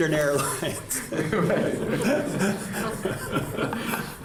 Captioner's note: laughter